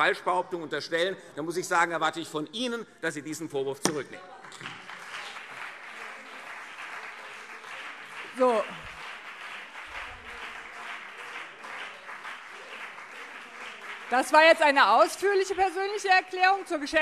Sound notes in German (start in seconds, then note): 4.6 Beifall CDU und BÜNDNIS 90/DIE GRÜNEN - Zurufe SPD